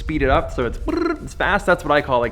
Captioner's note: makes speed noise